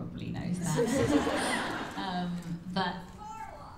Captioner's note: laughter